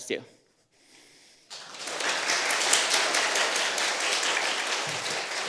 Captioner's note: applause